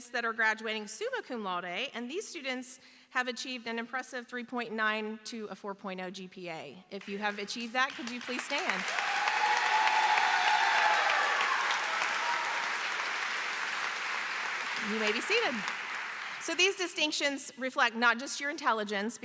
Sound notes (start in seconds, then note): 12.5 applause; 13.7 cheering; 15.9 applause